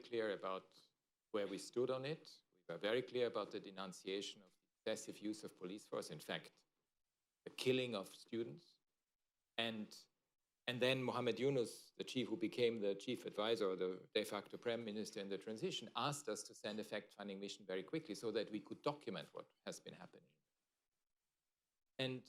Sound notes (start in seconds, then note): none